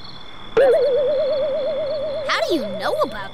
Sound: puzzled noise

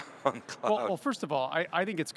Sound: laughs

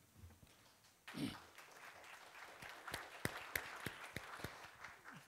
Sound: audience clapping

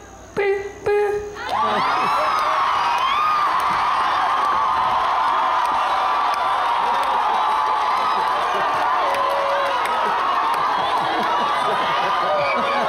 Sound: explosive applause and cheering

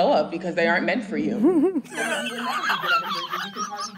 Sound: laughs

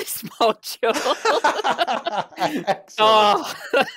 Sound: laughter

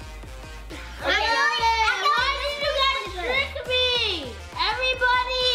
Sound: chattering together

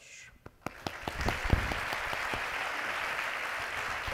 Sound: audience applauding

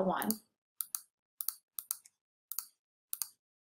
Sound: clicks

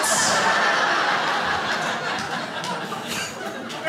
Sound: crowd laughs

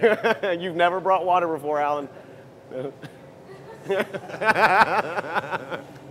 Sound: laugher

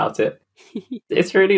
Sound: laughs

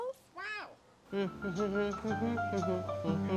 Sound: gentle piano music; humming

